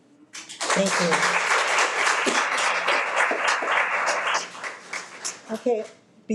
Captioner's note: audience clapping